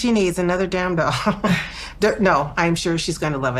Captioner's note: both laughing